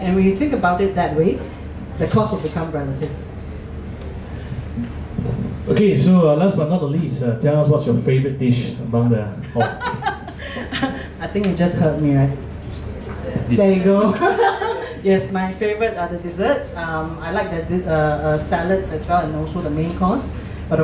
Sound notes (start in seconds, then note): 9.5 laughs; 14.1 laughs